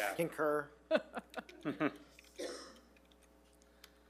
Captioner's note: chuckles